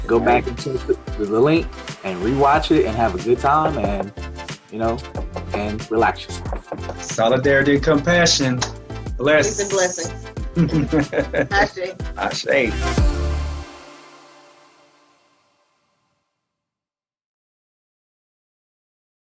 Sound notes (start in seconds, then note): 10.5 laughing; 13.1 upbeat music